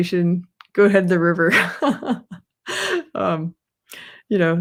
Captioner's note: laughs